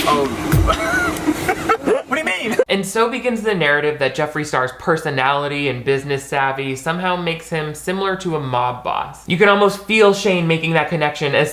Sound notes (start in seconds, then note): 0.6 people laughing